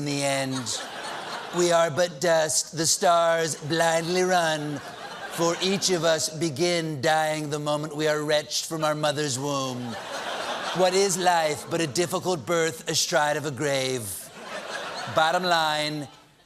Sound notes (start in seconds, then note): 4.4 trump accent